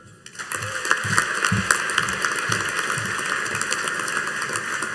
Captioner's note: audience applauding